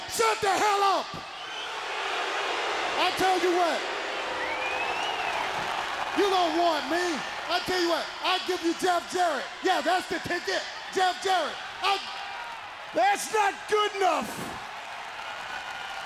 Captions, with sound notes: I'll tell, shut the hell up! (crowd boos) I'll tell you what. You don't want me. I'll tell you what. I'll give you Jeff Jarrett. Yeah, that's the ticket. Jeff Jarrett. I- That's not good enough.